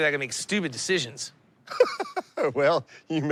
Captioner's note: laughs